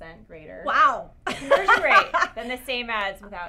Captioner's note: laugh